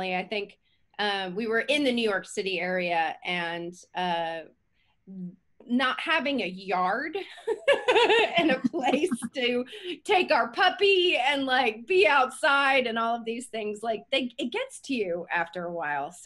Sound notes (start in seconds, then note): 7.4 laughing